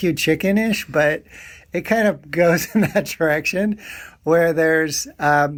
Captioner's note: chuckling